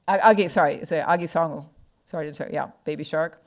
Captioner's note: speaking foreign language